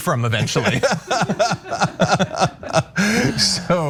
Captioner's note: laugh